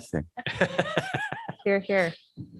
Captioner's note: laughter